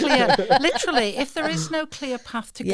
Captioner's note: laughter